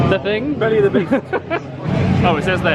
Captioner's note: laughs